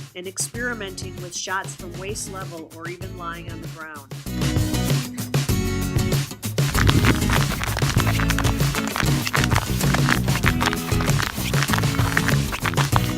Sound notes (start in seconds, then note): 4.2 upbeat guitar music; 6.6 ice cracking